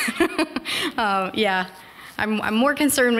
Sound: chuckle

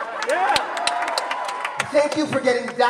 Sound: cheers and applause

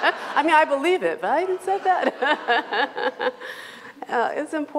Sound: laughs; laughs

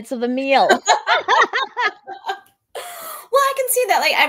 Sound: both laughing

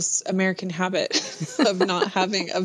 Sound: laughter

